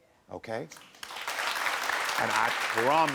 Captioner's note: crowd cheering